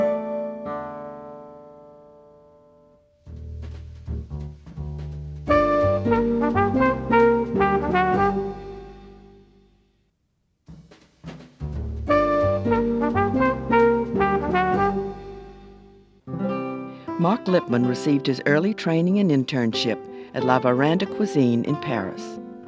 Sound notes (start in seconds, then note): 3.3 up-tempo jazz music; 11.3 up-tempo jazz music; 16.9 voiceover